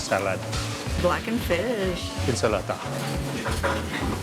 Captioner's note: in Italian